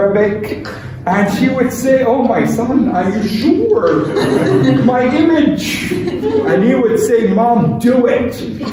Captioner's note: laughter